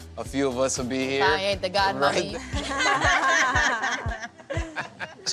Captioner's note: laughter